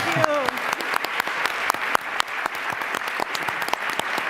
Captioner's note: applause